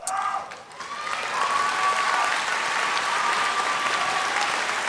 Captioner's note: applause